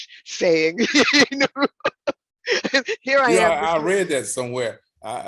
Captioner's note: laughing